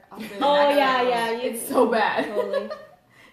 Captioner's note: laughs